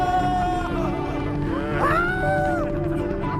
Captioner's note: exclaims